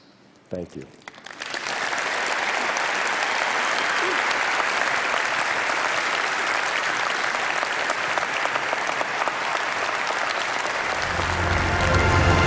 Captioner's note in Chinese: 掌聲